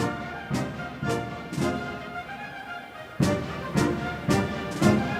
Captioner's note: none